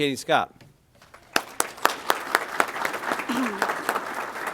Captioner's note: applause